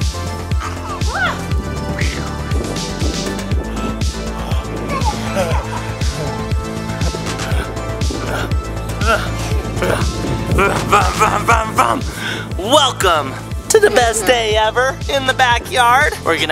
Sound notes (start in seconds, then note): 5.6 laughing; 8.4 grunting